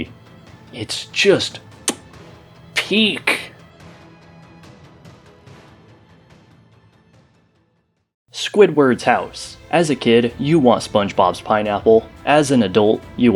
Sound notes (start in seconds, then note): 1.8 smack